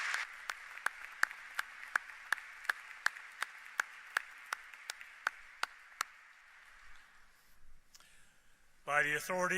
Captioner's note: applause